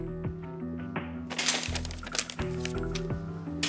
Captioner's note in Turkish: Kapı açıldı